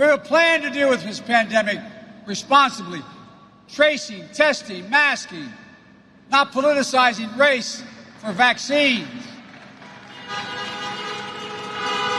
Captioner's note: applause